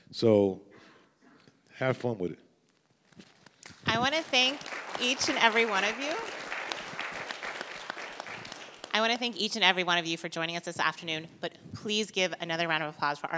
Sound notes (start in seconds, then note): 6.5 audience applauds